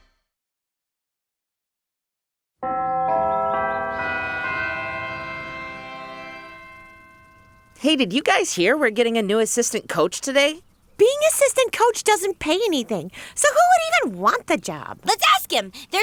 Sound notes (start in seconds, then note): 2.6 bells